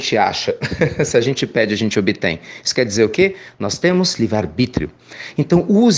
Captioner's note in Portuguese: risos